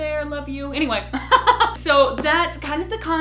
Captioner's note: laughs